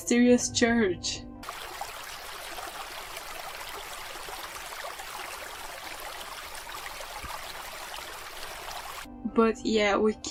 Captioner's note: river sound